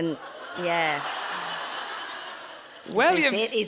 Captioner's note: audience laughing